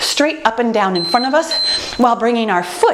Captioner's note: timer beeping